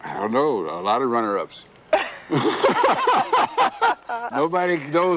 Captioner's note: laughing